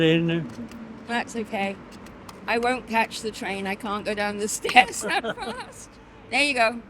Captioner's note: laughs